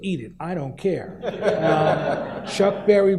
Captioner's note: audience laughs